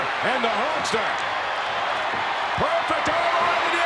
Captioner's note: crowd shout